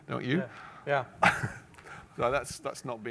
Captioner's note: laughs